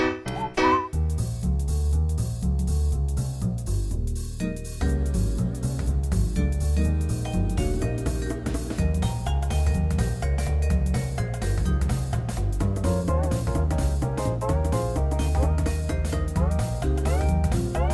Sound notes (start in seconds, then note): none